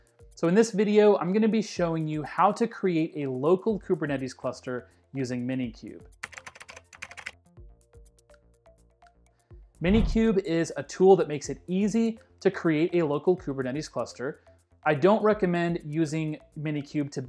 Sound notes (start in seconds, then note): 6.3 keys clacking; 6.4 upbeat music